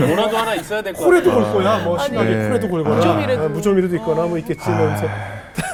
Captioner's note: laughing